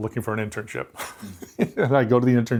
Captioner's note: laughs